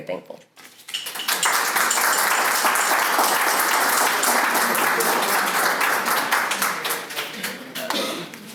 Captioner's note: applause